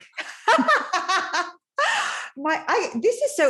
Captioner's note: laughing